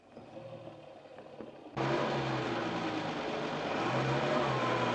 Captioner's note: engine revs